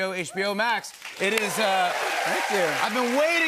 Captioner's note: cheers and applause